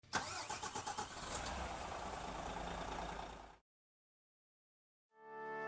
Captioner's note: engine turns over and starts